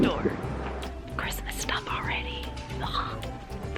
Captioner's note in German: flüstert; geflüstertes Würgegeräusch